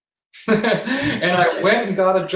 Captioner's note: laughs